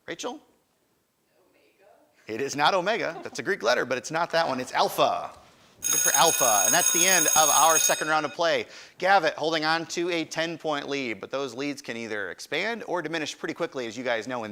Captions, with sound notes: Rachel? >> Omega? >> It is not Omega. That's a Greek letter, but it's not that one. It's alpha. (alarm ringing) And that's the end of our second round of play. Gavit holding onto a 10 point lead, but those leads can either expand or diminish pretty quickly, as you guys know,